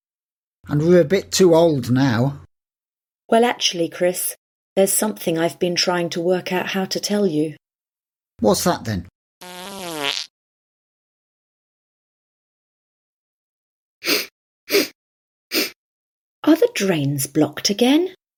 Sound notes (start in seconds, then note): 9.4 passing wind; 14.0 sniffs